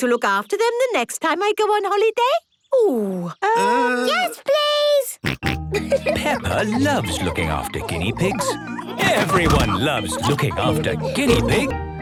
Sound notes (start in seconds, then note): 2.8 snorting and giggling; 10.1 laughter